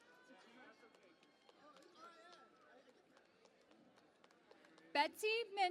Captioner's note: cheering and Applause